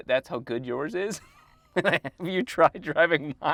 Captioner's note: chuckling